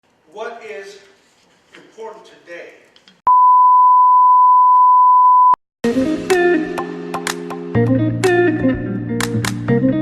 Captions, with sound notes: - What is important today-- (beep) (upbeat music)